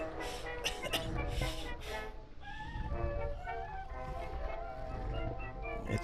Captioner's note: cheerful 1920's music; Clint coughing